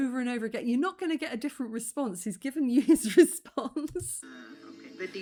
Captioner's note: laughing